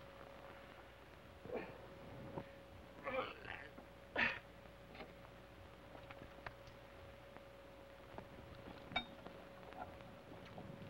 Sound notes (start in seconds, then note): 3.0 Sheriff groans